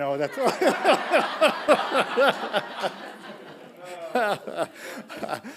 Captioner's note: audience laughing; laughing